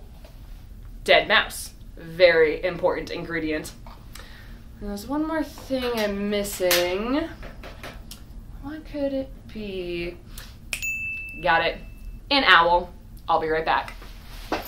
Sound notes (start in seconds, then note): 10.7 ding